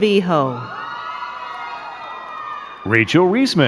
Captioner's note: crowd cheering and clapping